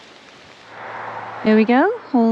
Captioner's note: rain